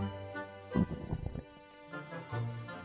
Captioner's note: stomach gurgle